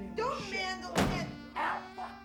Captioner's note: thud